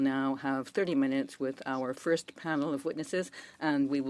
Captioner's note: speaking French